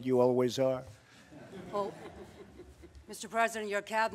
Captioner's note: laughter